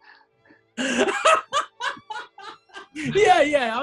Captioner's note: laughing